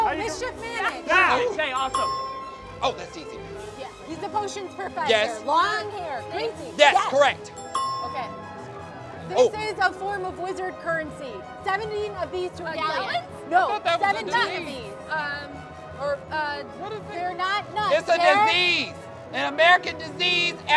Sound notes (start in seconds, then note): 1.8 ding; 7.5 ding